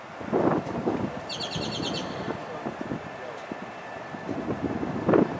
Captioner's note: birds chirping